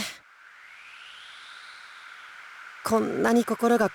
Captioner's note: silence